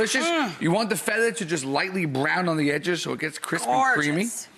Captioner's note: none